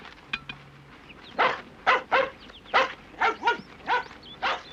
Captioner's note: barking